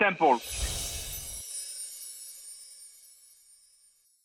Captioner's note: chimes tinkling